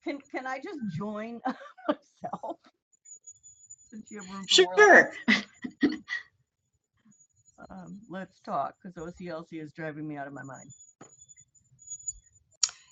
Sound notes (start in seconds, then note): 4.2 laughs